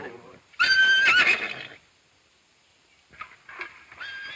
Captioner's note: horse neighing